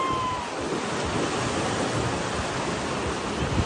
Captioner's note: person cheering